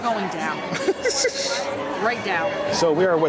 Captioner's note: laughs